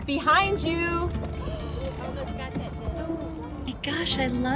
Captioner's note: women gasp